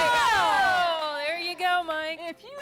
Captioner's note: �laughing�